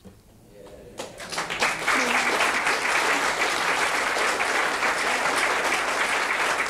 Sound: audience clapping

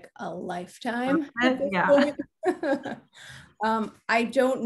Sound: laughing

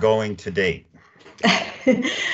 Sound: chuckling

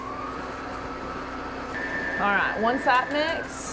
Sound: mixer whirs

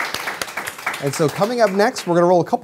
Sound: applause

